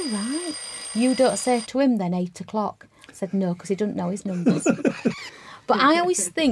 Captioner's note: laugh